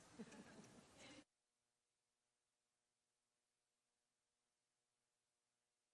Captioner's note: laughter